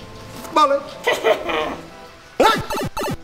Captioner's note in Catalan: Riure malèfic